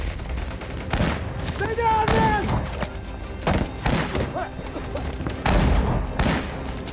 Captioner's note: gunshots